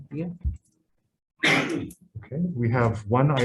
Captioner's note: coughs